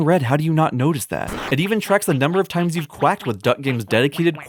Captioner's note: explosion; quacking